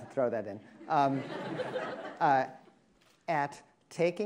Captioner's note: attendees laughing